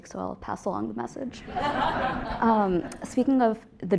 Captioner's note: laugh